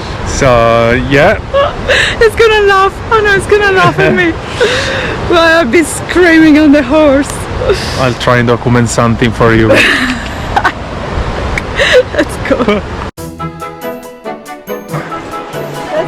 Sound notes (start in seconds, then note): 11.9 laughing; 13.2 happy instrumental music